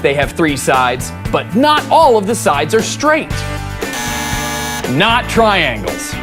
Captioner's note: buzzer